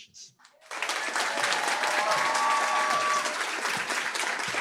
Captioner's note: applause, cheering